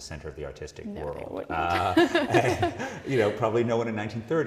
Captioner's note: laugh